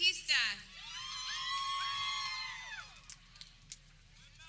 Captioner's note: people cheering